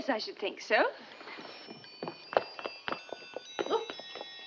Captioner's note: clock chiming